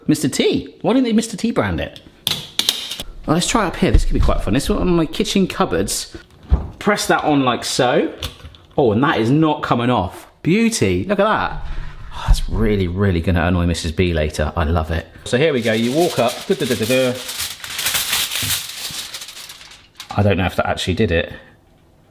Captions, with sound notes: Mr. T. Why didn't they Mr. T brand it? Let's try it up here. This could be quite fun. This one, one of my kitchen cupboards. Press that on like so, oh, and that is not coming off. Beauty. Look at that. Oh, that's really, really gonna annoy Mrs. B later. I love it. So here we go. You walk up. (foil rustling) I dunno if that actually did it.